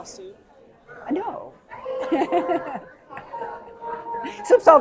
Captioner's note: laugh